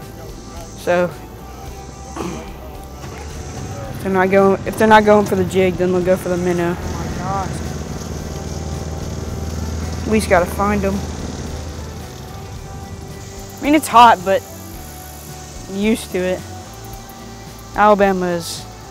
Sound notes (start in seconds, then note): 8.0 sounds of motor puttering around